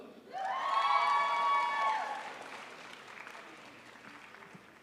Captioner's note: crowd applauds